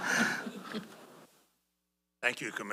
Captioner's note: laughter